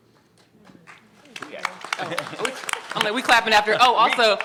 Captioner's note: applause; chuckles